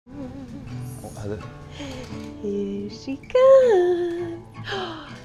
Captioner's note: humming